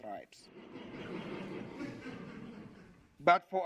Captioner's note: laughter